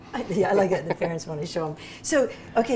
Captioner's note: laughs